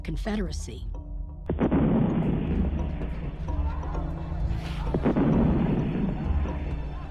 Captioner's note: cannon fires